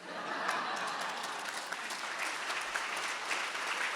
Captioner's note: audience applauding